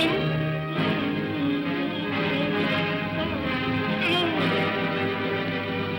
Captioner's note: Scrooge cries out; ominous upbeat music; Scrooge moans; ominous upbeat music